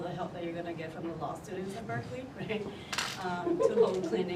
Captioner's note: chuckles